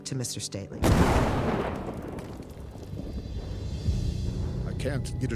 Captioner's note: explosion blasts